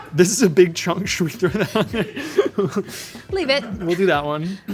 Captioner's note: chuckles